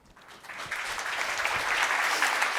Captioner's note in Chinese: 掌声